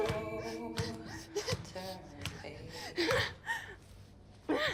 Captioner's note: breathing heavily